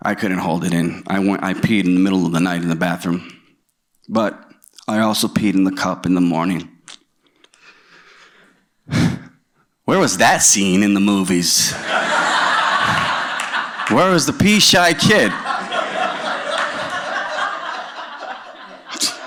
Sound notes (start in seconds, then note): 8.8 exhales; 11.7 laughter